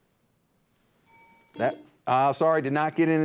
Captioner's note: bell dings; buzzer beeps